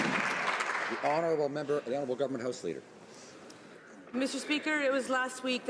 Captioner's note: some Applause